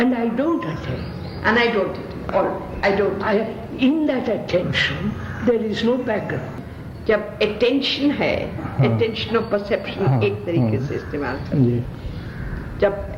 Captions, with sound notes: and I don't attend. In that attention there is no background. (Discussion In Hindi)